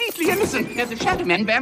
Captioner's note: door slams